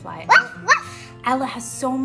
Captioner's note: Ella barks